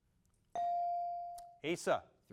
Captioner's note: bell dings